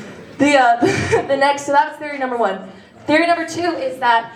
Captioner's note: chuckles